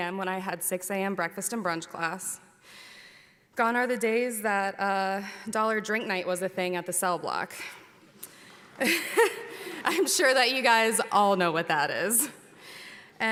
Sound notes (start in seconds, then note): 9.2 laughs